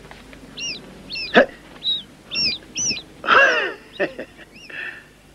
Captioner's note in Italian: un topo squittisce